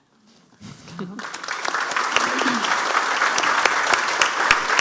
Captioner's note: audience applauding